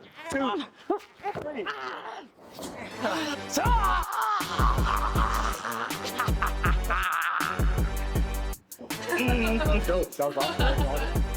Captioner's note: laughing